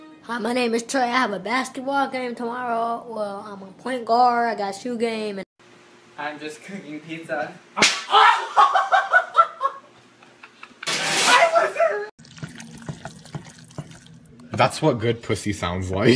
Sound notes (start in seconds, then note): 7.7 metal smack; 10.1 laughing; 12.3 ̶g̶o̶o̶d̶ ̶p̶u̶s̶s̶y̶ mushing sounds